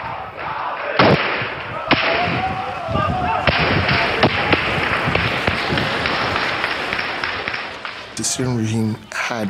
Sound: gunfire

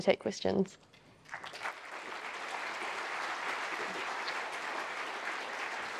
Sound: audience applause

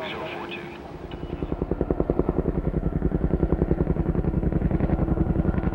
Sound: radio chattering; chopper blades beating

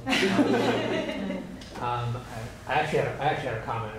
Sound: laughter

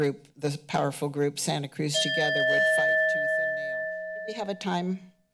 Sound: bell ringing

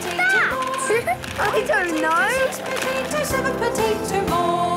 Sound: laughing

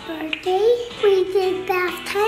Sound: popping

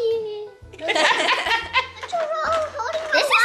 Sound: laughing

